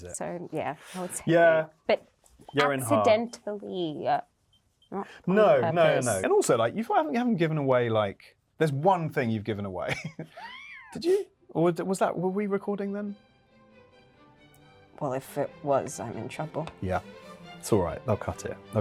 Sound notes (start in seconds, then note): 9.8 Yerin laughing; 12.1 theatrical music